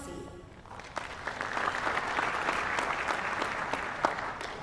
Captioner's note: applause